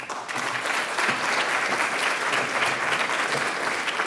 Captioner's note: audience applauds